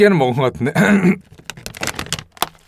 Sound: getting lump in throat

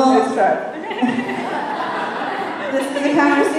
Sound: laughter

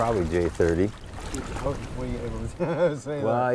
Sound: chuckles

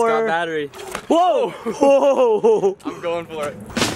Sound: laughs

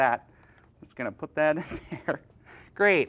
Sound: chuckles

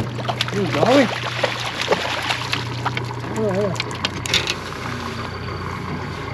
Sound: fish splashing; clattering; boat engine idling

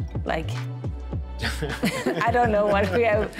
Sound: gelach

